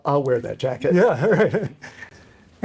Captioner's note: laughs